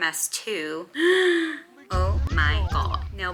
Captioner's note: gasp